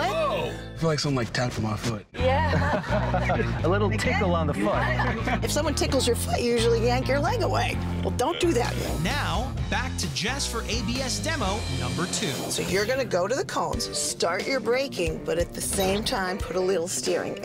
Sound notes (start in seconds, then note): 2.3 chuckles